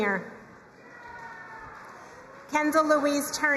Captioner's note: crowd cheering and applauding